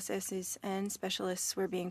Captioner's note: speaking French